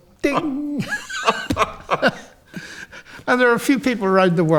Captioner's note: both laughing